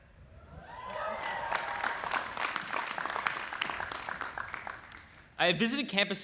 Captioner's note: audience applauding